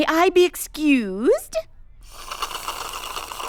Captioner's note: slurps